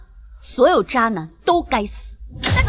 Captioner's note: slap